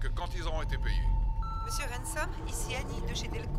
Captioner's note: beeping; voiceover